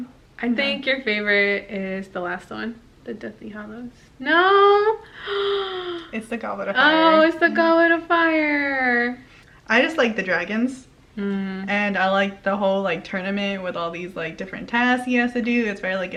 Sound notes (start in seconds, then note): 0.0 whispers; 5.0 shocked sigh